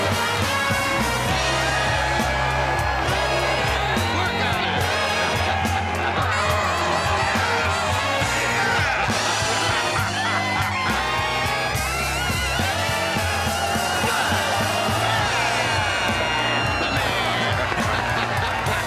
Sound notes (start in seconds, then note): 10.1 guests continue cheering; 10.1 jazzy music continues